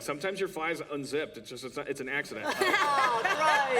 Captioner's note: laughter